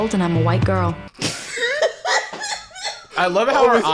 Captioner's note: laughing